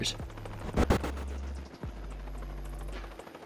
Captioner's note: electrical buzzing; helicopter propellers whirring